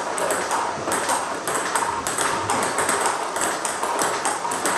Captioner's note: ball ping pong hitting continues